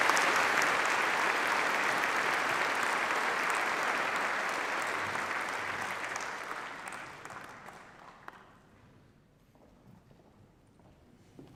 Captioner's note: applause